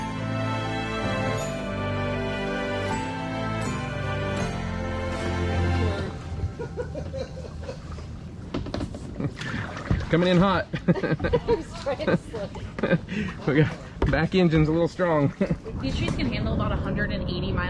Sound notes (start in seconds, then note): 10.6 laughing